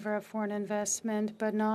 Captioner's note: speaking French